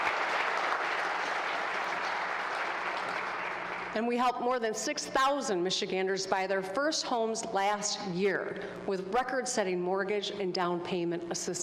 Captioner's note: applause